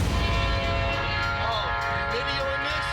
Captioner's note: train horn blowing